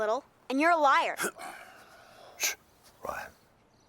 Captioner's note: Heep clears throat